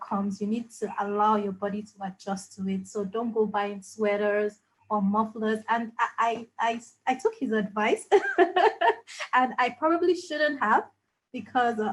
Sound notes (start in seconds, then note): 8.1 laughs